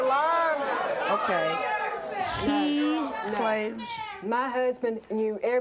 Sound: audience clamors

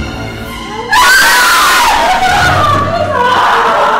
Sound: both scream

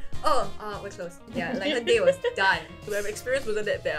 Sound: laughs

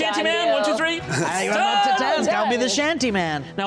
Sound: shouting

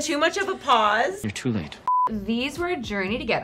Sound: beep

